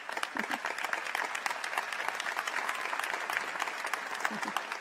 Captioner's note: applause